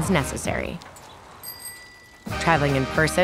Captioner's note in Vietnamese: tiếng chuông xe đạp